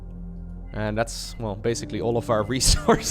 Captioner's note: chuckles